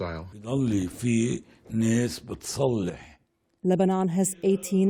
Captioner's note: voice-over